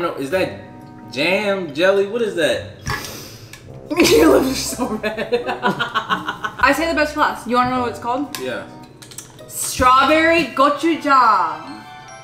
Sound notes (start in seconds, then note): 3.9 laughing; 11.4 whimsical music